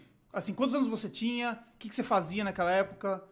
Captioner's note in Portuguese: none